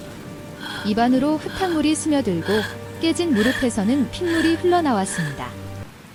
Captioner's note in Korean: 헉 소리